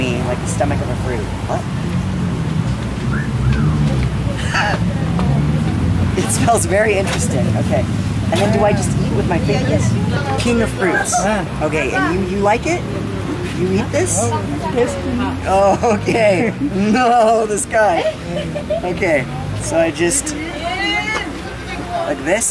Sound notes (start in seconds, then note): 3.1 person wolf whistles; 4.2 laughs; 14.3 speaks in foreign language